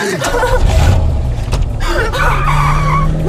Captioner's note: gasping